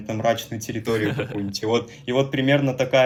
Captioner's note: ahahahahhahaha